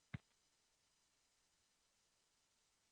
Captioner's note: silence